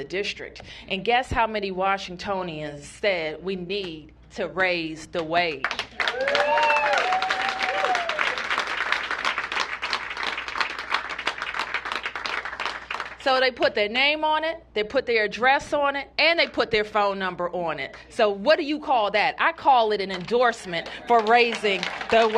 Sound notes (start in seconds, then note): 7.8 applause